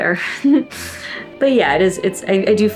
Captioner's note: laughs